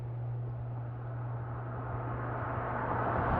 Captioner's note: car approaches